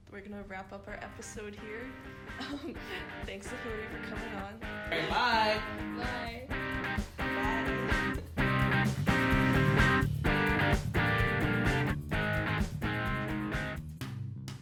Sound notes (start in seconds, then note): 1.8 upbeat music; 2.2 giggles; 7.2 giggles; 10.0 upbeat music